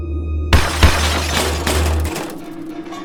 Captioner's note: more scaffolding falls